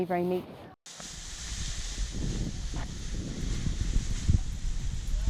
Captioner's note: wind bellowing